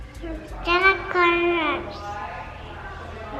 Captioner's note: babbles